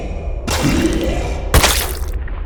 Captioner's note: ??? spits